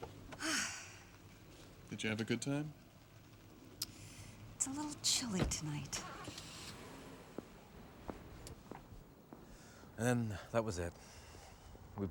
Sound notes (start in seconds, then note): 0.4 sighs; 6.2 car engine starts